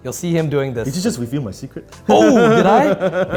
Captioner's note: laughs